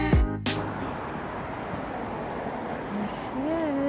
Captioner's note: cars passing